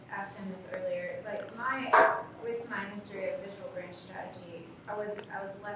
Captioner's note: faintly speaking